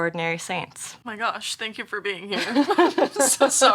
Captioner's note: both laugh